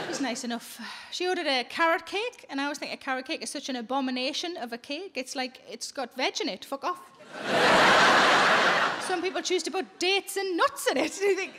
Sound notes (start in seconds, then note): 7.2 audience laughing